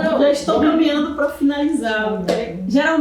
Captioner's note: speaking portuguese